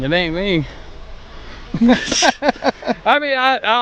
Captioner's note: both laughing